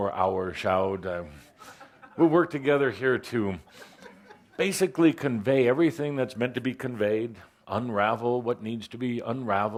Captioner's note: laughter